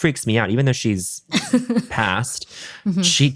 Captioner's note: laughs